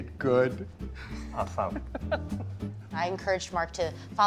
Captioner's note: John laughs